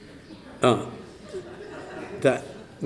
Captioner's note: laughter